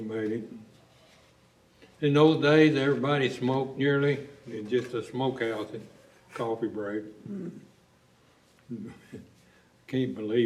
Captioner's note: laughter